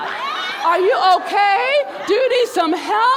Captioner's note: crowd laughing